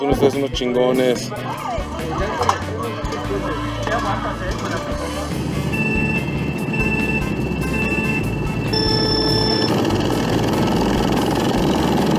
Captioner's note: Mario Bros voices